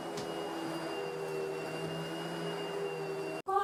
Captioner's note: vacuum cleaner continues